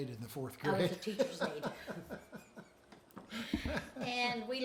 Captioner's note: chuckles